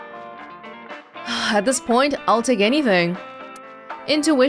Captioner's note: exhales